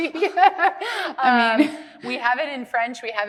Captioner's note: laughing